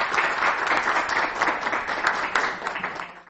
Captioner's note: applause